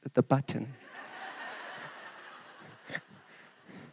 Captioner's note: laughter